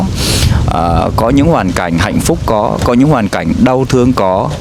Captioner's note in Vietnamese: khịt mũi